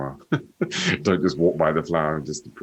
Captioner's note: laughs